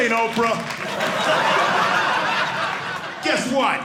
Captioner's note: audience laughing